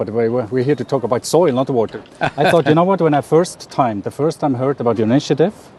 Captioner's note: Sadhguru laughs